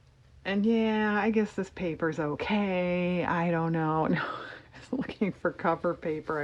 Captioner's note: laughs